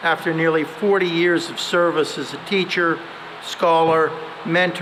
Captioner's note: none